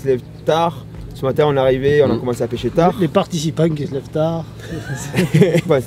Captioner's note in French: rires